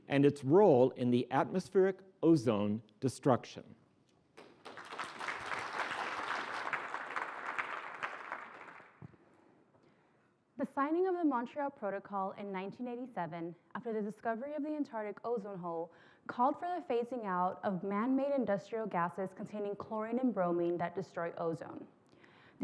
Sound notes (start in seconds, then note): 4.3 applause